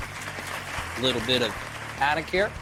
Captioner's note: audience applauding